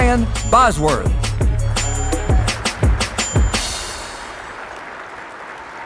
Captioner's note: audience applauding